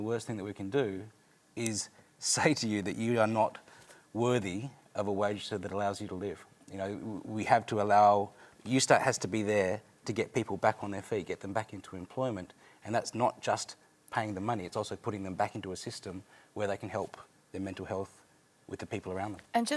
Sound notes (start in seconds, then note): none